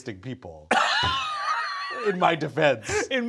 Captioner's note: Brennan laughing